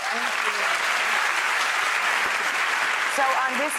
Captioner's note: applause